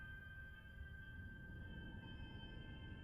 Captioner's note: none